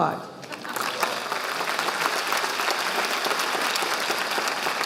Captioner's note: audience applauding